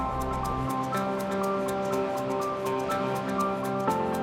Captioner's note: air whooshing; water flowing